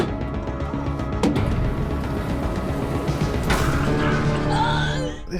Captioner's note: intense digital music; groaning painfully